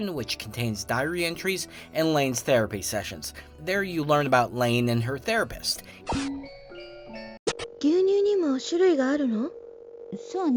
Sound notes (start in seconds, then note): 7.4 speaking japanese